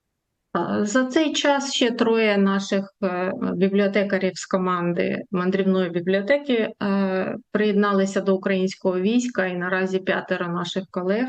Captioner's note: foreign language